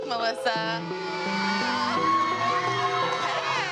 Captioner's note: cheering